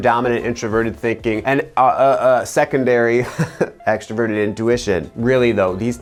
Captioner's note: chuckles